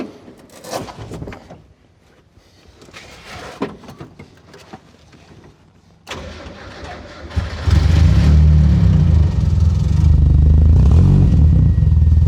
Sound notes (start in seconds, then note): 6.0 engine starts